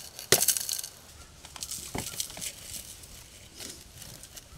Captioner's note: tube clattering